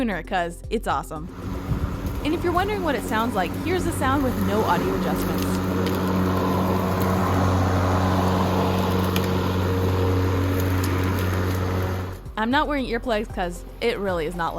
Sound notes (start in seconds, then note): 5.4 mower noises